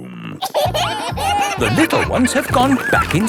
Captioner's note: kids giggling